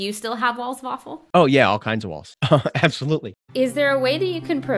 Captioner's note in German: lacht